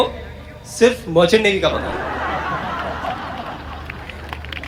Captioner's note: audience Laughing Hysterically and Clapping